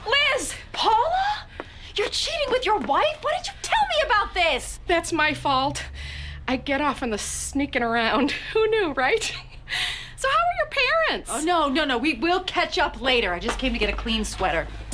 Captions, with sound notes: -Paula?! You're cheating with your wife?! Why didn't you tell me about this?! -That's my fault. I get off on the [chuckling] sneakin' around. Who knew, right? So, how are your parents? -No, no, no. We'll catch up later. I just came to get a clean sweater.